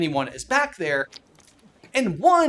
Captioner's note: splurts